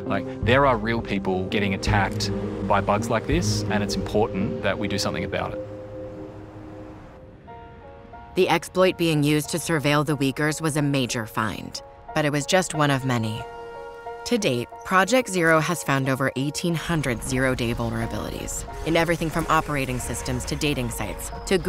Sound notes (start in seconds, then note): 5.9 city sounds; 7.4 soft music